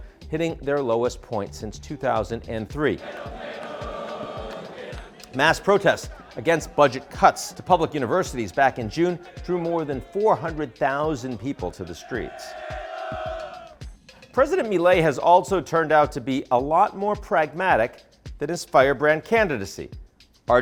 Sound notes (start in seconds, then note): 2.8 people chanting; 11.2 crowd chants